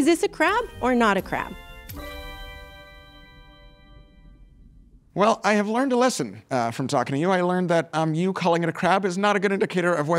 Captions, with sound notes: Is this a crab or not a crab? (water burbling) - Well, I have learned a lesson from talking to you. I learned that you calling it a crab is not a good indicator